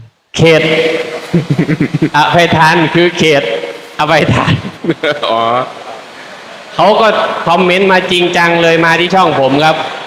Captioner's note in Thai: เสียงหัวเราะ